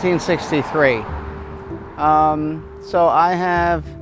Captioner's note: traffic humming softly; gentle music continues